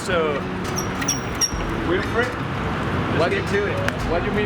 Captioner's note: bike squeaks badly!